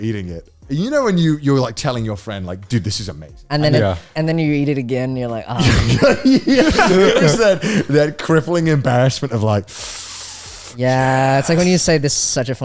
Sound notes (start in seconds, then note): 10.3 inhaling